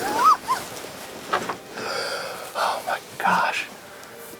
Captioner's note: whispering